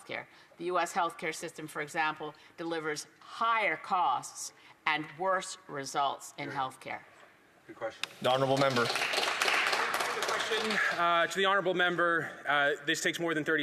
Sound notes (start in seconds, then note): 11.8 some Applause